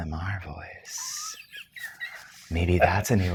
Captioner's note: guy laughs